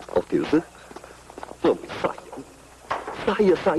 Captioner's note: muttering